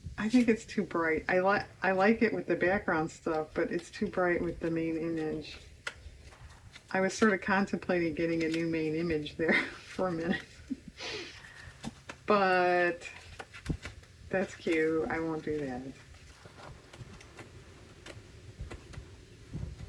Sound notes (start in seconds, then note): 13.3 laughs